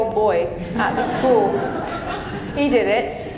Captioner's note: audience laughing